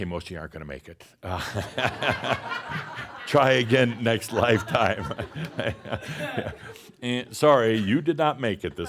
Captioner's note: laughter